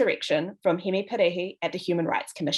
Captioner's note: speaks in foreign language